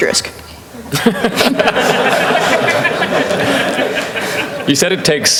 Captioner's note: laughter